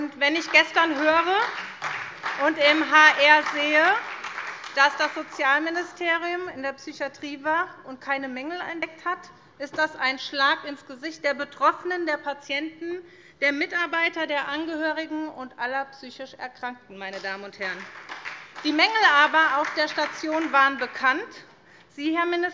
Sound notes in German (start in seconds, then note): 0.1 Beifall SPD; 17.1 Beifall SPD